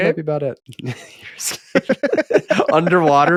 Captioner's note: laughing